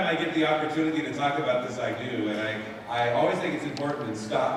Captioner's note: none